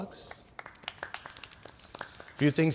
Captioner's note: applause